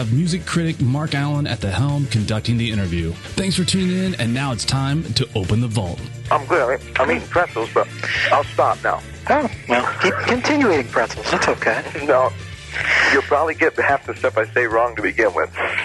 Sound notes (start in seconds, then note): 9.2 laughs